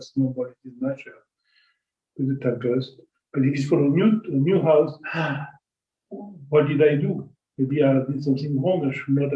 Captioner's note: gasp